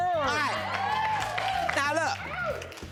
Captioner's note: audience applauding